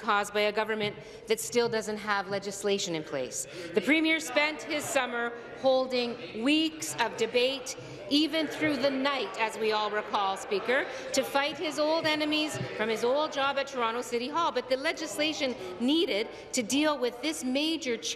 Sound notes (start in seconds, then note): none